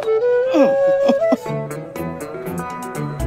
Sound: giggling

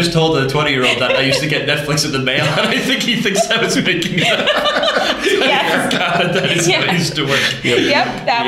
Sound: laughter

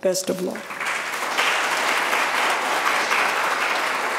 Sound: applause

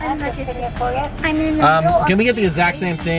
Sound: woman In Speakerphone

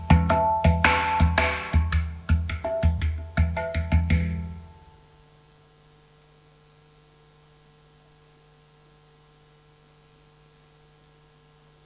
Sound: applause

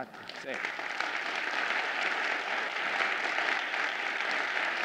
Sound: audience applauding

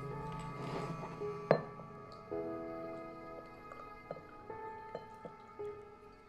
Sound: pours whiskey; classical music

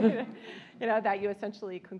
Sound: l aughter

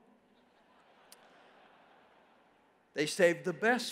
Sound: congregation laughs

